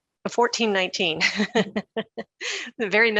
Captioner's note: chuckles